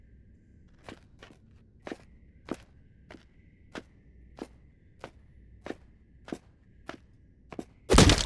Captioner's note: sound of footsteps; loud sound of something hitting object